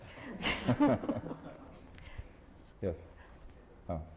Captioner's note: laughter